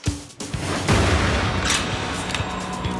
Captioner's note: theme music; gunshot